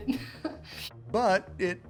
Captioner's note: woman chuckling